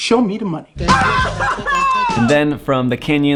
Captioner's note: laughing